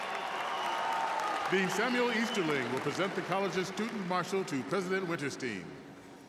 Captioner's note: cheers and applause